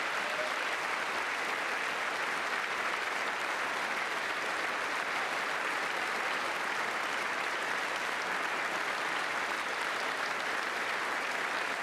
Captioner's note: applause